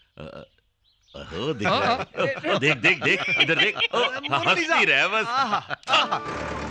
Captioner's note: all Laughing